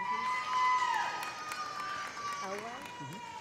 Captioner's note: audience applauding; audience cheering